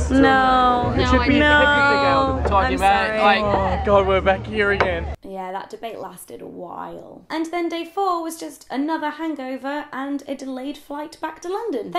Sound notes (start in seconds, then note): 3.4 voiceover